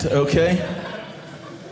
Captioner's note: audience laughing